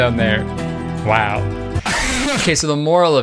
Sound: laughs

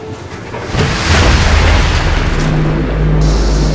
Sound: splash

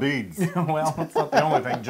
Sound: laugh

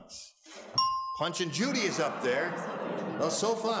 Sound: audience oohs

